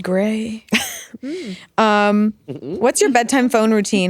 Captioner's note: chuckling